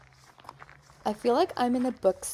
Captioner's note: footsteps ASMR